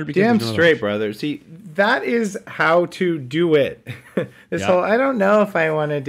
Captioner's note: laughs